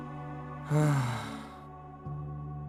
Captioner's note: sigh